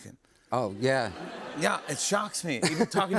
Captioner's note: laughter